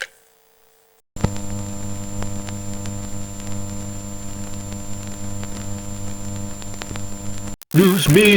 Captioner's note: buzzing like an unplugged microphone